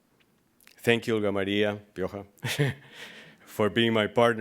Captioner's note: speaking foreign language